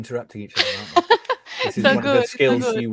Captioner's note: laughing